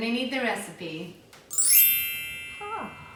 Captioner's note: chime rings